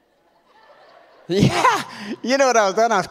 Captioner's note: audience laughs